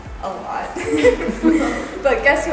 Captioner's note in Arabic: الضيوف يضحكون